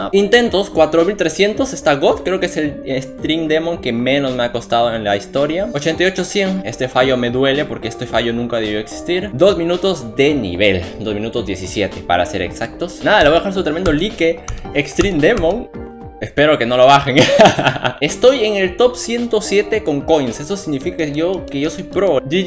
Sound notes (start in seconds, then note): 17.2 laughs